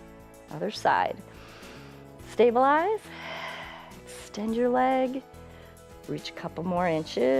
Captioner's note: inhales